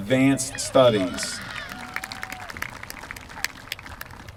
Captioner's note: applause